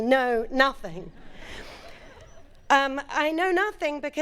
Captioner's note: audience laughing